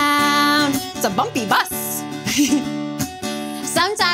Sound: giggles

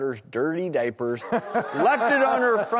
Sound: lauging

